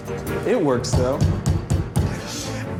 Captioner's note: Gordon bangs fist on table